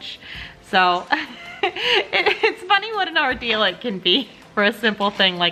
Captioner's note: chuckles